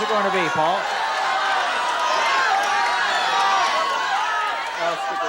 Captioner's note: audience shouting